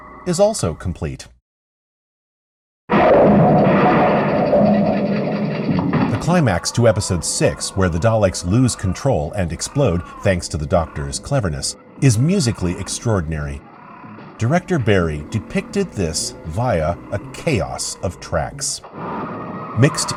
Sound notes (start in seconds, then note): 2.9 explosion; 6.1 Dalek cries throughout